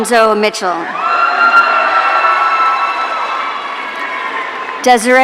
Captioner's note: audience cheering